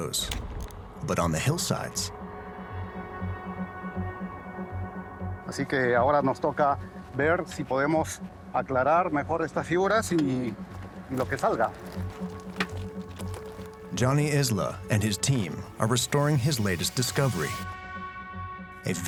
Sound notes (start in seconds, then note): 6.3 speaking Spanish